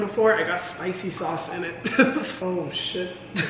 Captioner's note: laughs